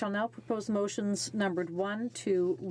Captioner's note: speaking French